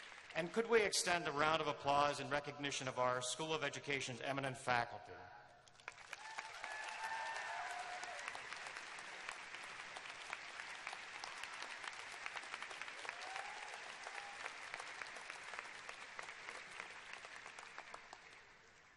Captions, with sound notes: And, could we extend a round of applause in recognition of our School of Education's eminent faculty. [cheers and applause]